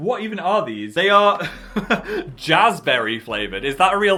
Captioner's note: laugh